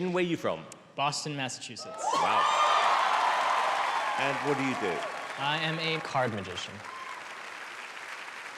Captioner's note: applause